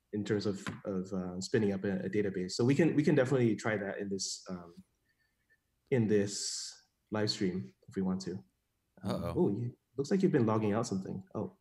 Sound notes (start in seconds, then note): none